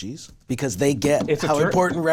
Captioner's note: knocking on table